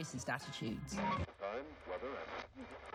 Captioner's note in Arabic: على الراديو